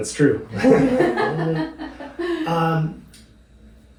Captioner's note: laughing